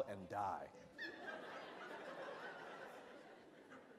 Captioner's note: laughter